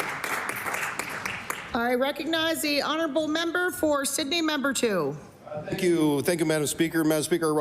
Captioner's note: applause